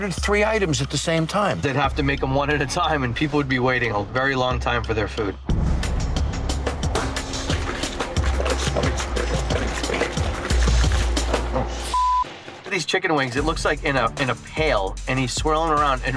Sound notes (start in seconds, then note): 5.6 suspenseful music; 6.5 chicken sloshing; 11.9 beep